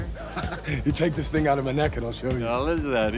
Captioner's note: laughs